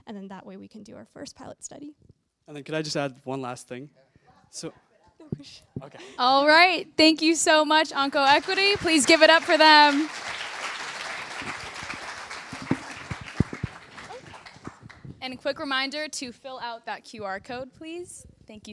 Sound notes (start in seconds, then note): 10.2 applause